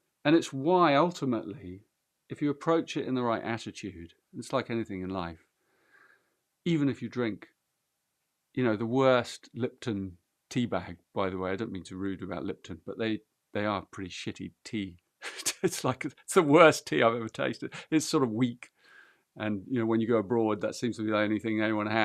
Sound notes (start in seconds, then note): 15.2 laughs